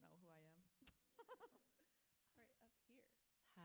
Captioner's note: author laughs